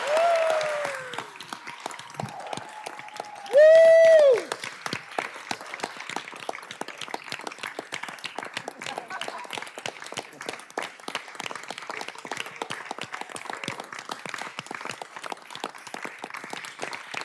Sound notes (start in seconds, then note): 3.8 cheers and applause